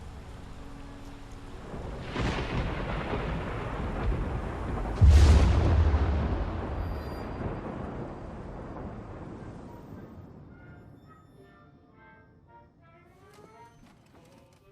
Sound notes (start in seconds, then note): 0.0 rain pattering; 0.0 soft tense music; 2.2 thunder rumbling; 10.6 muffled 1920's music